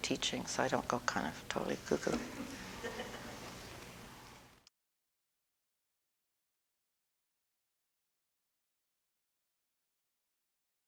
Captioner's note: audience: Laughter